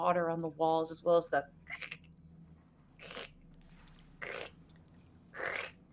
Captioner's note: mimicking scraping